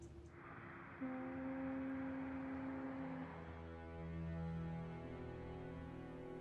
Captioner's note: boat horn blaring